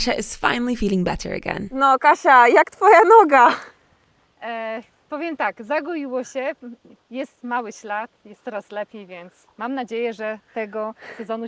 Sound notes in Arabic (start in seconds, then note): 1.8 تتحدث باللغة الأجنبية